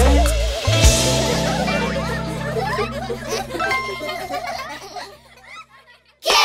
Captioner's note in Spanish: Risas